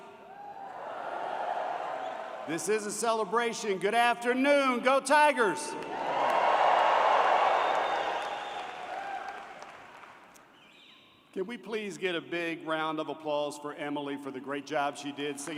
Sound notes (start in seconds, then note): 5.8 cheering